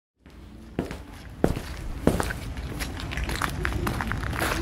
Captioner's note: footsteps